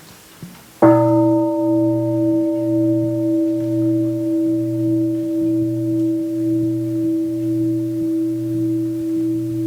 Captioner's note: gong